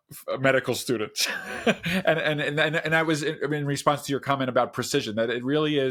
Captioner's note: laughs